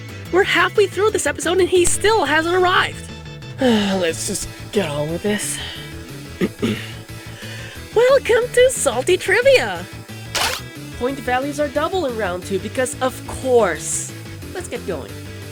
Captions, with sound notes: We’re halfway through this episode and he STILL hasn’t arrived! (groan) Let’s just get on with this. (clears throat) [exaggeratedly cheerful] Welcome to Salty Trivia! Point values are double in Round 2, because of course. Let's get going.